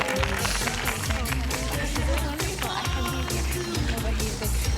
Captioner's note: all chattering; gasping